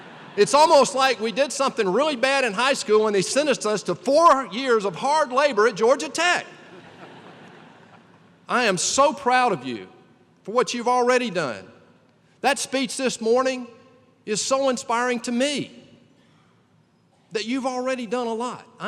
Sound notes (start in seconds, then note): 0.0 laughter; 6.6 laughter